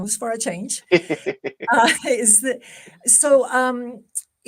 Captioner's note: laughs